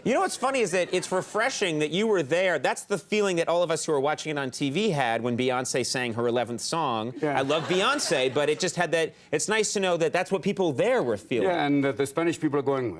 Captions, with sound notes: You know what's funny, is that it's refreshing that you were there, that's the feeling that all of us who were watching it on TV had when Beyonce sang her eleventh song. (audience laughs) I love Beyonce, but it just had that... It's nice to know that that's what people there were feeling. Yeah, and the Spanish people are going,